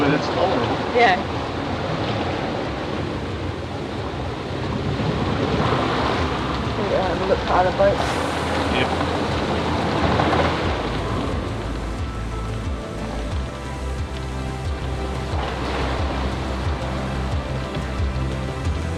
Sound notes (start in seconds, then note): 3.3 waves crashing; 12.5 upbeat music